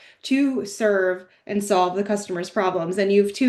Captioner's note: none